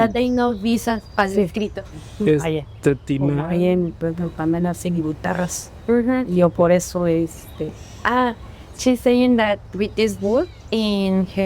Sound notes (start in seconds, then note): 0.0 and translator speaking spanish; 2.3 speaking spanish